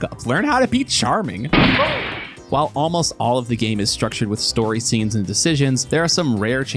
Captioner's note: gunshot